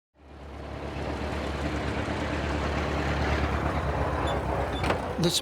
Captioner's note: engine hums